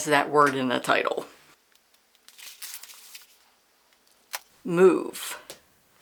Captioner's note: silence, pages flipping